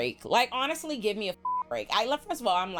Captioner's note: beep